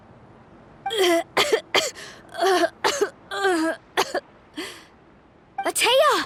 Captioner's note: coughing